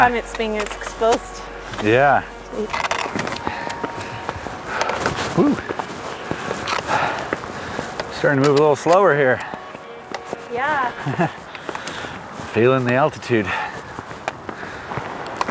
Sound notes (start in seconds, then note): 11.0 laughs